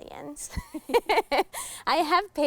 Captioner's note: laughing